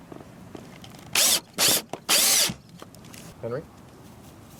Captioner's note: drill whirring